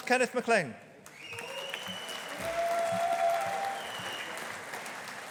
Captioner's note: audience applauding